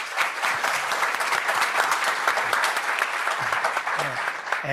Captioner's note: applause